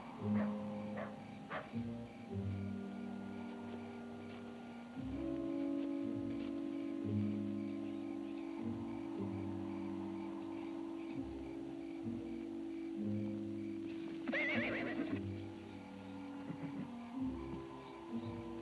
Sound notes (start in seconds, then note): 14.2 horse whinnies; 16.0 tense music